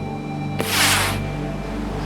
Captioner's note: flare gun fires